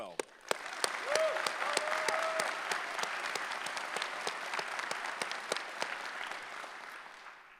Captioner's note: applause